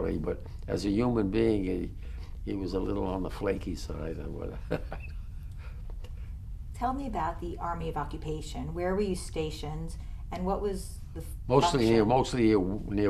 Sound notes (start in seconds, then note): 4.6 laughs